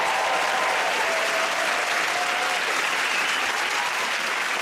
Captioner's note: cheers and applause